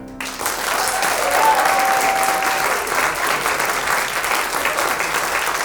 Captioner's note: audience cheers and applauds